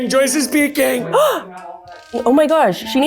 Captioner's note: gasp!